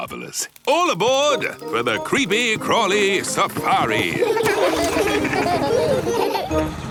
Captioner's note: laughing